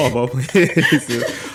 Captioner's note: laughter